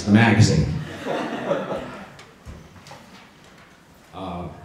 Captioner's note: audience laughs